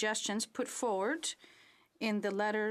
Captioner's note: speaking French